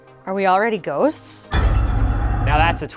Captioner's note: rumbling